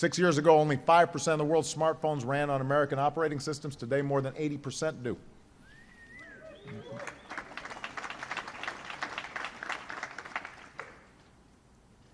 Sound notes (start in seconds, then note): 6.6 applause